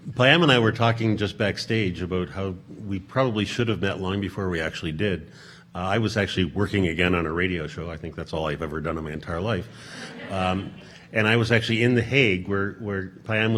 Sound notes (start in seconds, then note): 9.6 audience laughing